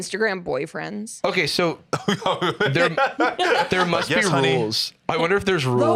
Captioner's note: laughs